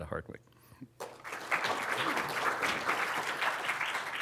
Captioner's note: applause